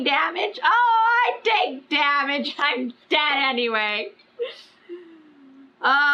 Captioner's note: laughs